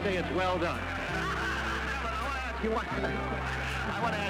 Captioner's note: laughter